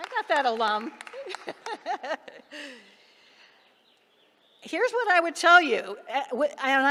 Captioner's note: applause; laughter